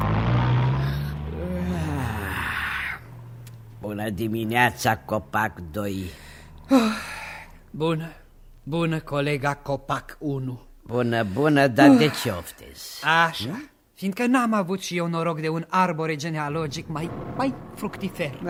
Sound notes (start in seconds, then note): 0.0 engine noise; 0.0 groan; 5.4 sighs